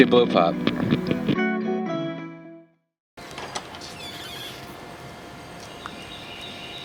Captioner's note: soft music; birds calling